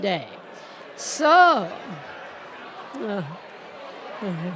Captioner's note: crowd laughing